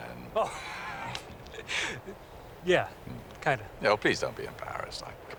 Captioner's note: laughs